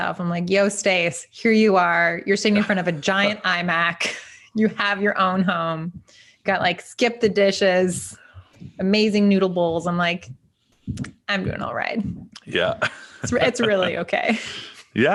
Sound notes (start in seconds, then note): 4.0 chuckles; 12.3 laughing